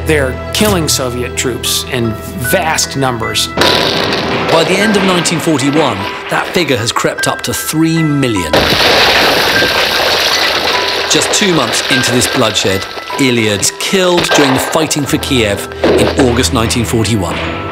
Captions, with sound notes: - They're killing Soviet troops in vast numbers. (tank roars) - By the end of 1941, that figure has crept up to 3 million. (explosion booms) (eerie music) Just two months into this bloodshed, Ilya is killed during fighting for Kiev in August, 1941.